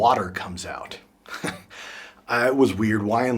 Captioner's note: chuckles